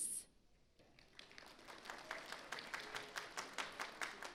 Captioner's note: audience applauds